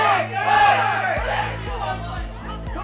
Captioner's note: crowd cheers